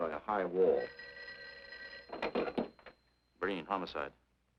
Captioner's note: phone ringing